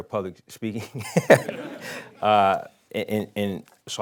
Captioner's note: laughing